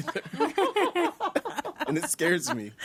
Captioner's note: all laughing